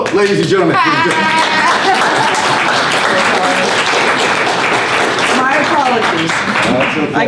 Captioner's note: applause